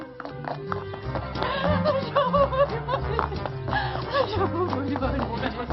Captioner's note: cries